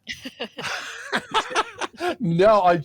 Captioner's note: laughter